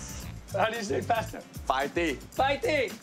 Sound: both speaking Cantonese; speaking Cantonese

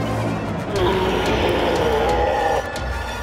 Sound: roars

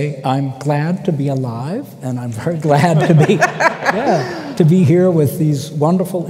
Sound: laughter

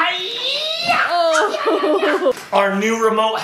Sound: laughing

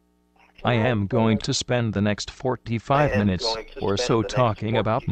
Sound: voiceover

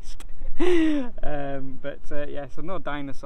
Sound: laughing

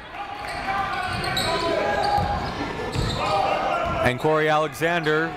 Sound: crowd talking; coaches yelling

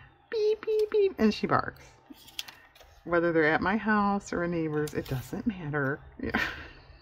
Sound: laughs

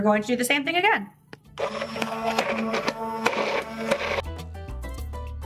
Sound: mixer whirring

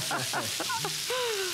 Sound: laughter

